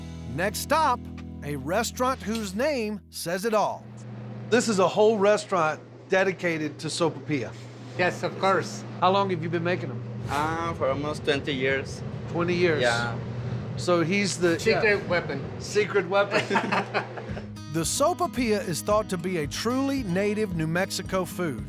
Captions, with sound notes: NEXT STOP, A RESTAURANT WHOSE NAME SAYS IT ALL. THIS IS A WHOLE RESTAURANT DEDICATED TO SOPAIPILLA. YES, OF COURSE. HOW LONG HAVE YOU BEEN MAKING THEM? UM... FOR ALMOST 20 YEARS. 20 YEARS? YEAH. SO, HE'S THE- SECRET WEAPON. SECRET WEAPON. [LAUGHTER] THE SOPAIPILLA IS THOUGHT TO BE A TRULY NATIVE, NEW MEXICO FOOD,